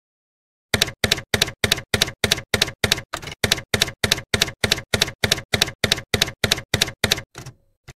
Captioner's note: typewriter keys clacking